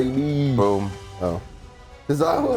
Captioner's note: laugh